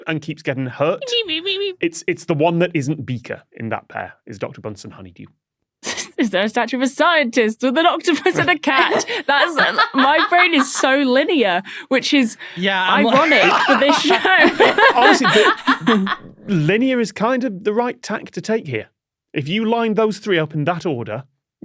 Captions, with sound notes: and keeps getting hurt. Meep meep meep meep. It's the one that isn't Beaker in that pair is Dr. Bunsen Honeydew. (snickers) Is there a statue of a scientist with an octopus and a cat? That is— My brain is so linear. (laughs) Which is ironic for this show! Yeah. (guests laughing) Honestly... Linear is kind of the right tack to take here. If you line those three up in that order,